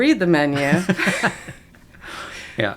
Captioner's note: laughter